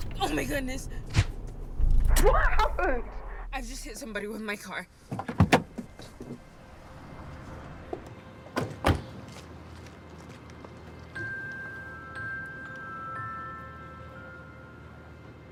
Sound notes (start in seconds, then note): 0.0 tires screeching; 0.8 air whooshing; 5.3 door clattering; 6.6 pensive music; 10.7 gentle music